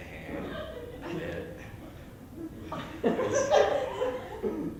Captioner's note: laughter